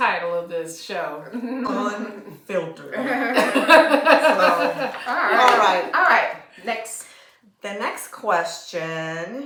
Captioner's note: laughter